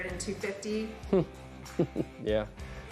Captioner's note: laughing